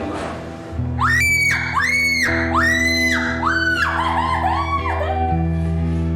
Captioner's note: screaming